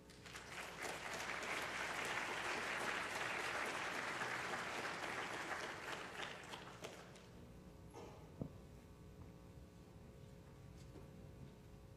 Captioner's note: applause